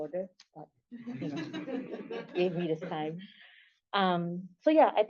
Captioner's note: laughter